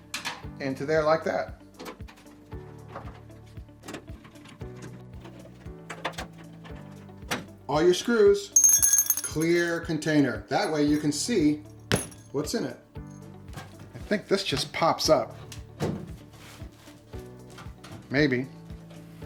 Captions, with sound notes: into there like that. All your screws. (ringing) Clear container. That way you can see what's in it. I think this just pops up, maybe.